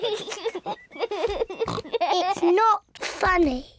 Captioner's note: giggling; snorts